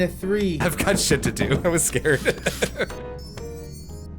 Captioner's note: nervous laughter